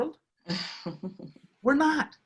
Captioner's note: chuckles